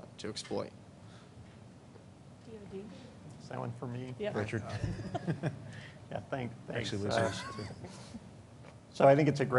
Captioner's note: laughter